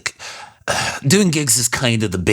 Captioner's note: sigh